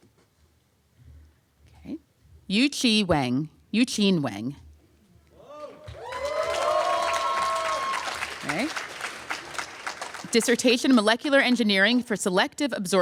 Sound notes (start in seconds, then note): 5.6 applause